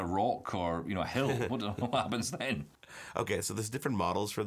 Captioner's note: chuckles